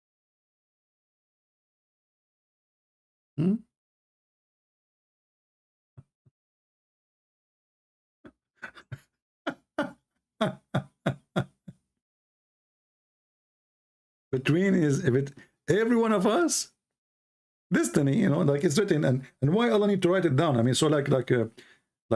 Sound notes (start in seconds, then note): 8.1 Ketawa